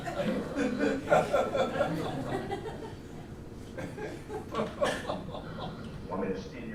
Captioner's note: laughter